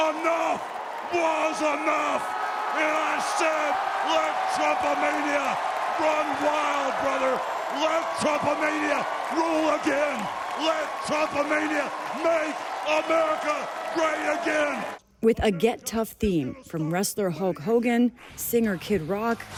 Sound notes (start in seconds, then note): 2.8 cheering